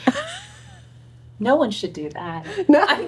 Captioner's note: laughing